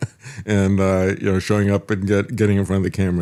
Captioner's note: laughs